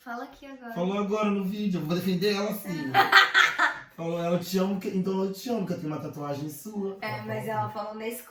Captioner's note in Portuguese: risos